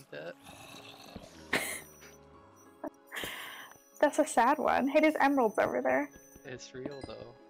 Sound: laughs

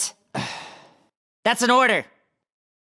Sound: sighing

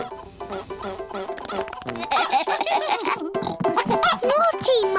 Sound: giggling

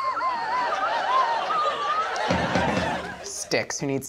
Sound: swanee whistle whistling; audience laughing; drums bonging

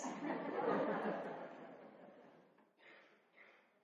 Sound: audience laughs

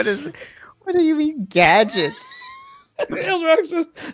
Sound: laughs

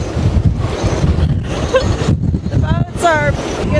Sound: wind howling

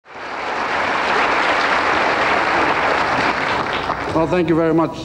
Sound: applause

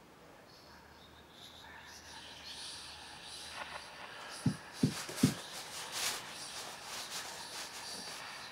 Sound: ghostly whispering

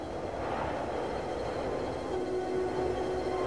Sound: scary violin music; wind blowing; flutes joining in

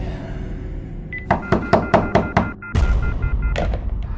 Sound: loud knocking at the door

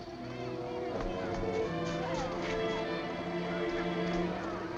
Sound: children chattering

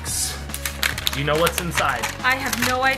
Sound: plastic crackling

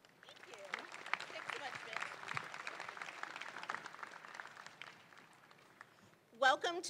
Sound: audience applauding

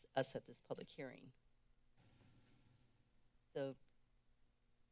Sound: silence

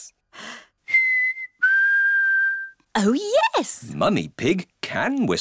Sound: whistles

